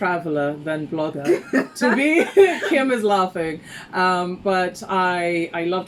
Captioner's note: laughs